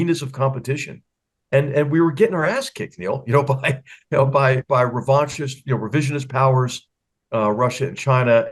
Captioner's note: laugh